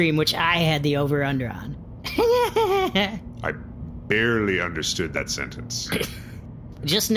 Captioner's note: laughs again, giddily